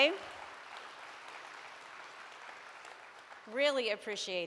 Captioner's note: audience applauds